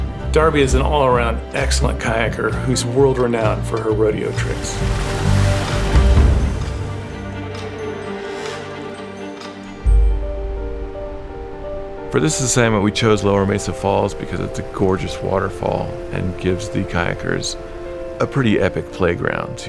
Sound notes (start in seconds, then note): 5.9 gentle suspense music; 5.9 water whooshing